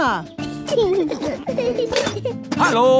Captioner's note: children giggling